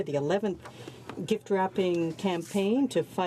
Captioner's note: speaking French